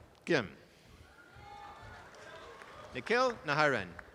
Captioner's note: audience applause